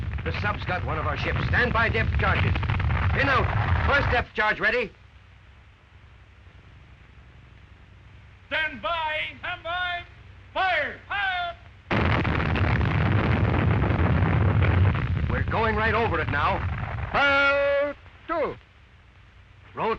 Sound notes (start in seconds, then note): 9.8 voiceover; 11.9 loud explosion; 15.6 voiceover